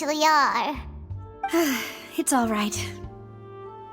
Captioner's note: sigh